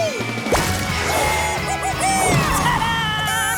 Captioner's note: squeaking